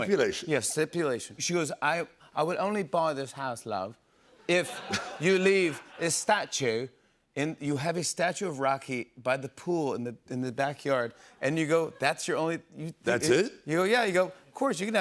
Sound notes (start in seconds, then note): 1.9 British accent